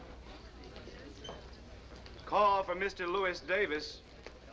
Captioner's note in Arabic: تعليق صوتي